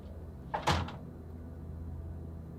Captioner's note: door bangs shut